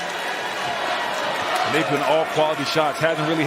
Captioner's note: cheers and applause